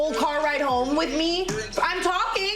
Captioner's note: overlapping chatter